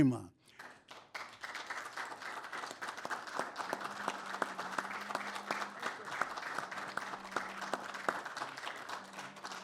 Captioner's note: applause